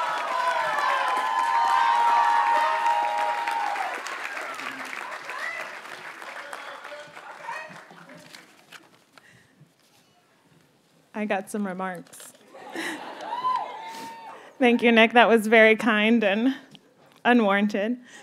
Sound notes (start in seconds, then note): 0.0 audience cheers and applauds; 12.5 audience laughs and cheers